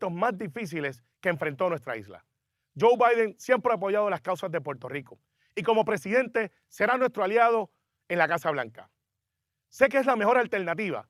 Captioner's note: speaking Spanish